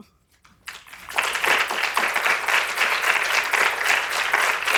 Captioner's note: audience applauding